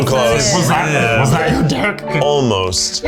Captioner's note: in puppet voice